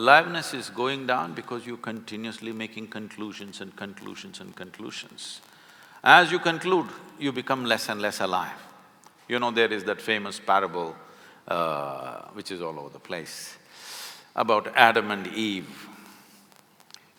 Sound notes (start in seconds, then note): none